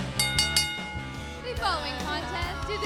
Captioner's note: bell ringing